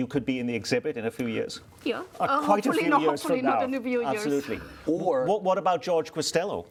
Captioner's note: laughter